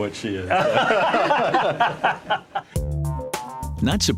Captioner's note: all laugh